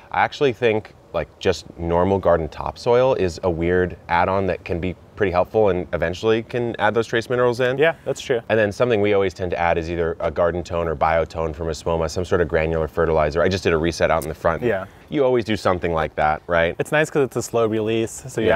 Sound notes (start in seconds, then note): none